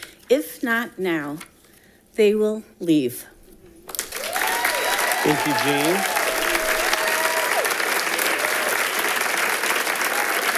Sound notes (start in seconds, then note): 3.9 audience applauding